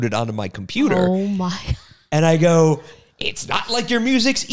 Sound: laughs

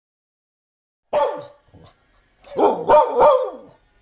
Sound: barking

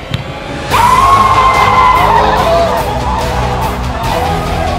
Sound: all cheering

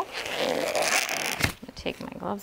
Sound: gloves squeaking

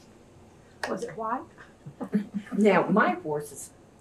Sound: laughter

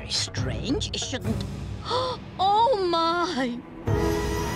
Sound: gasping

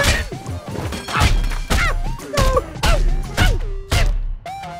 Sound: continues yelling in pain

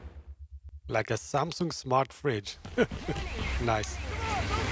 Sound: laughs

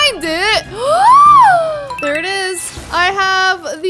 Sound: electronic beeps

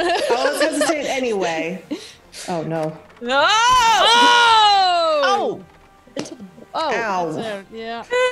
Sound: laugh

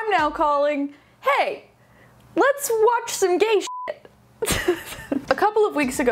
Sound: beep; laughing

